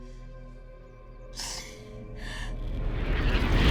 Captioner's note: Mattie sobbing; nightmarish music